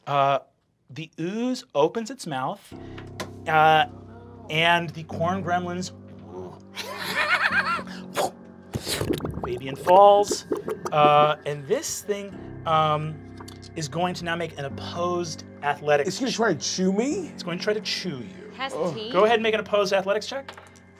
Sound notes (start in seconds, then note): 5.2 cackling; 5.2 whooshes and bubbling; 20.5 dice clacking